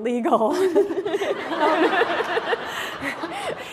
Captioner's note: laughter